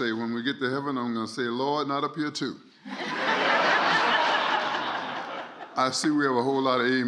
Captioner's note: laughter